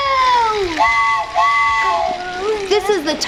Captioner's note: train whistles